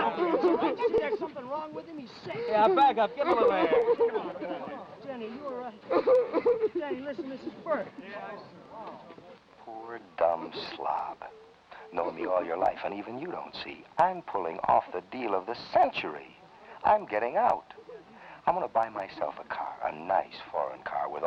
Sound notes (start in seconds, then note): 5.8 Danny sobbing; 8.8 men murmuring